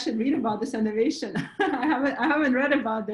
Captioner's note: laughs